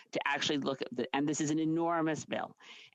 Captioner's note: speaking French